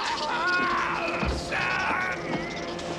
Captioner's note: hissing sound